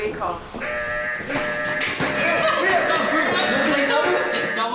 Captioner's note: alarm ringing